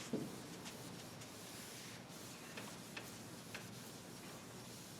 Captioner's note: board eraser hissing